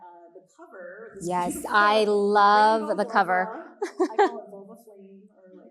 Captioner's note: chuckles